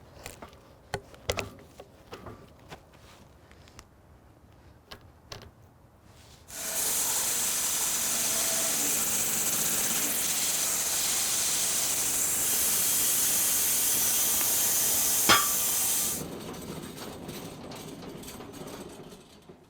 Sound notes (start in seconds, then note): 6.5 saw whizzing; 15.2 log clunking